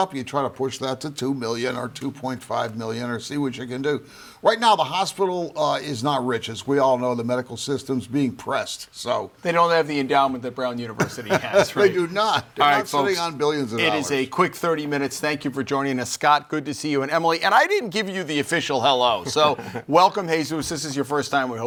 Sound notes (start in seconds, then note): 11.0 laughs